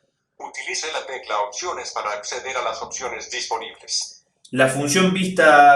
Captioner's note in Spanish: voz del dispositivo